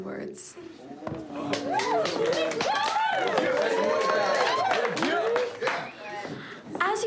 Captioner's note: cheering; applause